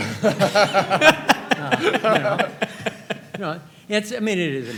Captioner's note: all laughing